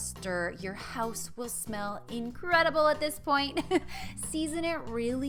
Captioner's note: chuckles